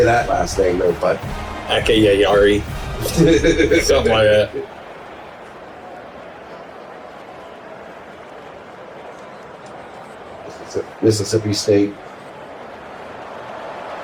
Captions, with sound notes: Say that last thing, but. I can't hear you. [LAUGH] Mississippi State. [Crowd Noises]